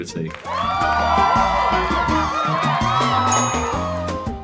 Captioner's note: audience cheers